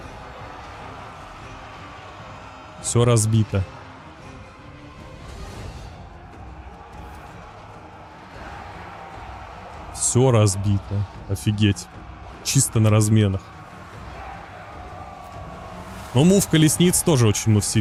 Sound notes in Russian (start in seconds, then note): 6.5 ликование